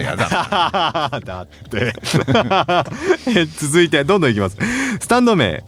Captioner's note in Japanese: 笑い